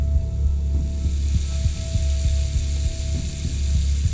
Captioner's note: running water